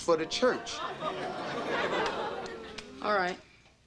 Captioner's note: audience oohs